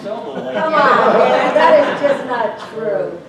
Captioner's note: laughter